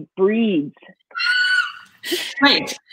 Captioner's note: squealing